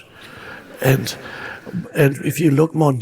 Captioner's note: audience laughing